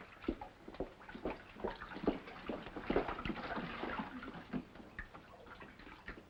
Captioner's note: water splashes